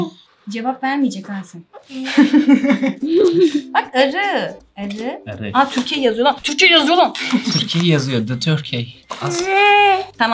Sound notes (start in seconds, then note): 1.9 laughs